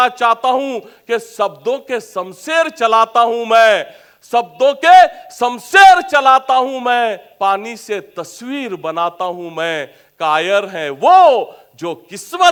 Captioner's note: reciting Hindi poem